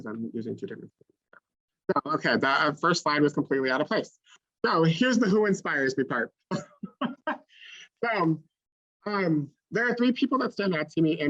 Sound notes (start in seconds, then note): 7.4 laughs